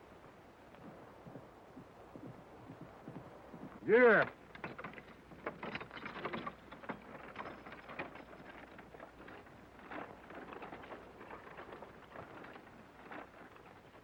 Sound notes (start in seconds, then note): 4.6 wagon creaking